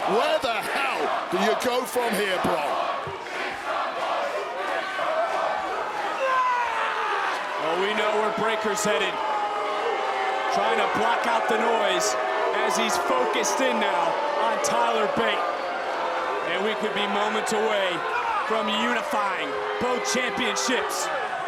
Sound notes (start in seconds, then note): 3.1 crowd chants "Big strong boy"; 5.9 Bron screams; 9.7 crowd boos